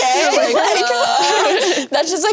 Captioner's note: all laugh